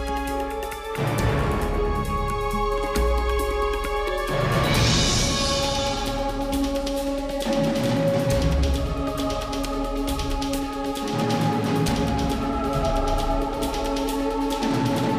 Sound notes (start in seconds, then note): 9.4 dark mysterious music; 9.4 people vocalizing